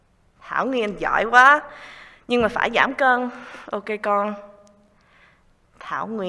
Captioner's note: speaking in foreign language